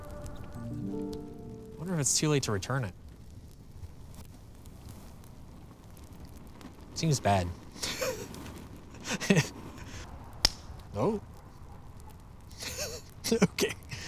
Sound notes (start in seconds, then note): 3.9 simmering crackle; 7.8 laughter; 10.3 pop; 12.5 laughing